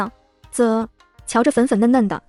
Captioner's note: tsk